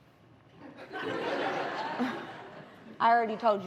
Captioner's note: laughter